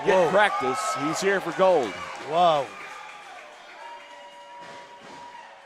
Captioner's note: crowd cheers loudly